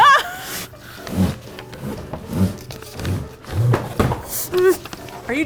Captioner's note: pieces slide and clatter out of box